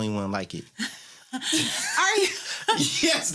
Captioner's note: laughter